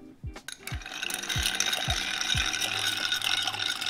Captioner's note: stirring